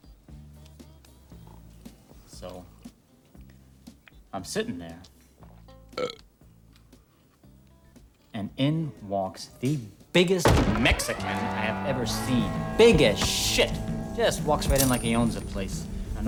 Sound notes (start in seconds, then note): 6.0 belches